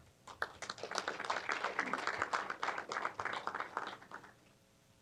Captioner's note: applause